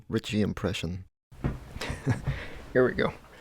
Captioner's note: chuckles